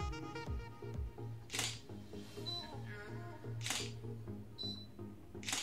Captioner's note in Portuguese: Som de câmera fotográfica